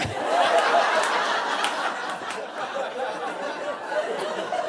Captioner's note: audience laughing